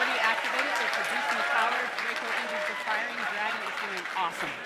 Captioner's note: cheers and applause